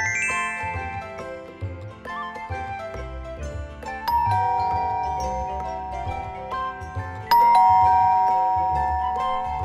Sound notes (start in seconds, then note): 4.1 doorbell ringing